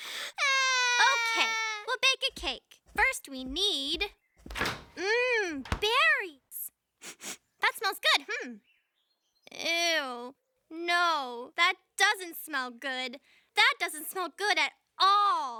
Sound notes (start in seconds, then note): 5.6 sniffs